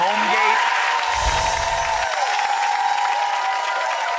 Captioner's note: applause